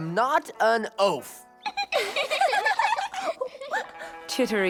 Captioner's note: laughing